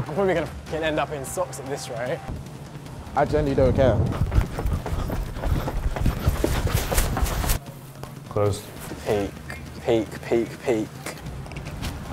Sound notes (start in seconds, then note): 4.0 huffing